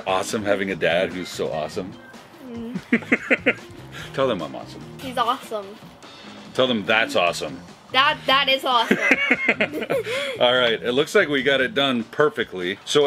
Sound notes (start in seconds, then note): 2.5 laughing; 8.8 laughing